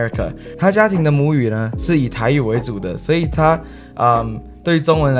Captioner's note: Mandarin